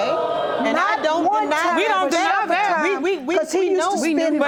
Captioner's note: audience exclaiming; all clamoring